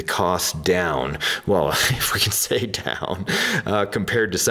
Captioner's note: laughs